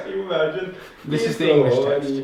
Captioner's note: people chatter; chuckles